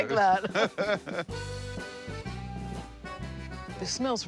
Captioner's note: laughter